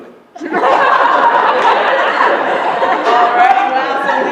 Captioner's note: laughter